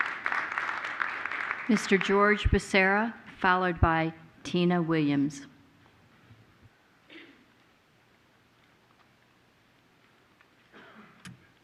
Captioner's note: applause